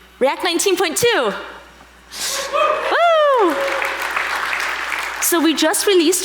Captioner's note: audience applauding